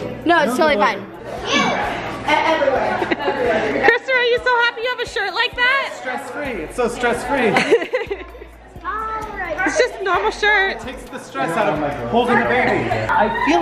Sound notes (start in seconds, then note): 7.5 laughing